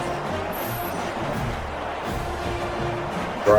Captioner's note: crowd Noises